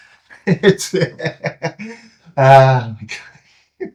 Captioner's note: laughing